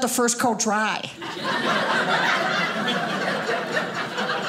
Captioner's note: audience laughing